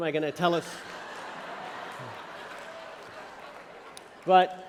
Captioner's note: laughter